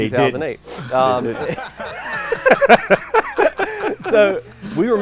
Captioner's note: everyone laughs